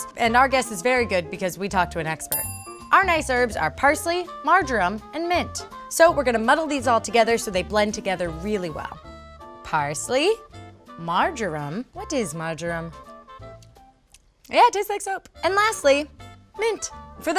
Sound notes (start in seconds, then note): 2.3 ding; 14.1 lips smacking